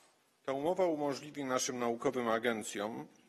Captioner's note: speaking polish